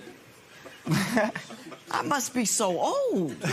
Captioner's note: laughs